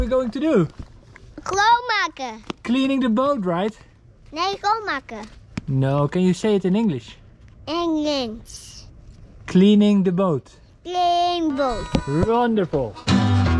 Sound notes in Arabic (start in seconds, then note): 1.8 يتحدث بلغة أجنبية; 4.8 يتحدث بلغة أجنبية